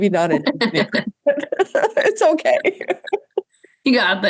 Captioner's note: laughs